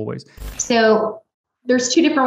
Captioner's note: static buzzes